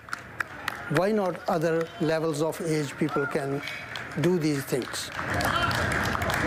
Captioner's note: applause